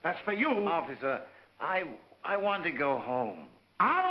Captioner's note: none